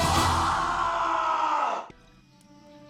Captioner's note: yelling